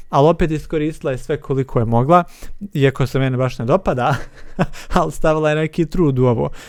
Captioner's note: laughs